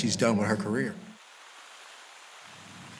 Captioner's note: water splashing